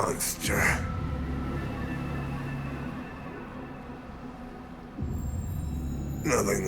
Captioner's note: low tone